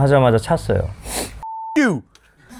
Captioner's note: sniff